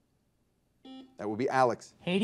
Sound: buzzer dings

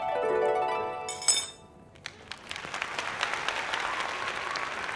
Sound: audience clapping sound

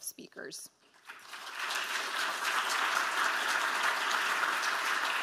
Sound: audience applauds

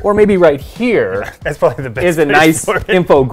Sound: laughs

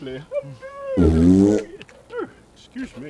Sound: flatulence

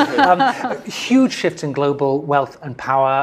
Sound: laugh

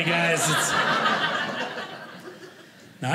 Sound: audience laughing

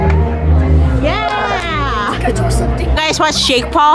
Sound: claps

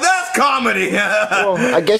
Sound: laughs again

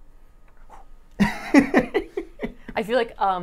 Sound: laughs

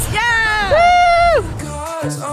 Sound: cheers

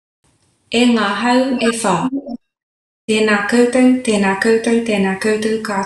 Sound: speaking in foreign language

